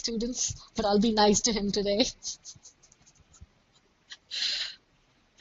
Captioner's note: laughs